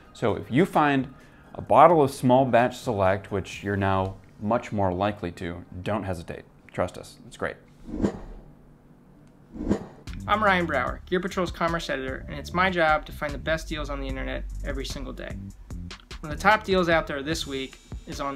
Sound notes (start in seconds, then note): 7.9 air whooshing